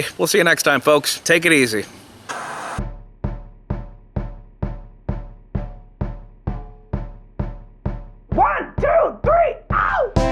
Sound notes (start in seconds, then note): 2.2 TV Static; 2.8 rhythmic drum music